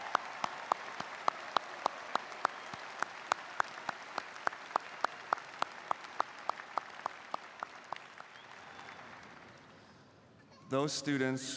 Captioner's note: applause